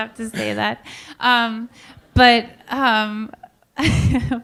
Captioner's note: laughter